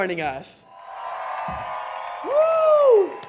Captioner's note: cheering